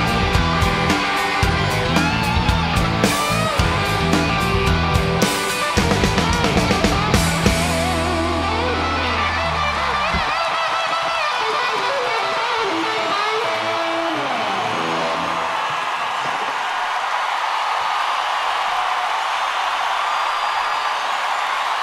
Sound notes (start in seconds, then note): 0.2 guitar solo continues; 10.0 audience cheering, clapping